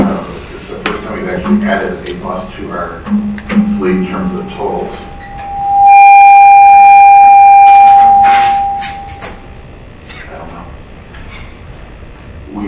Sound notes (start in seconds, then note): 5.5 feedback ringing